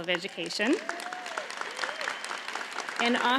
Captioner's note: audience applauds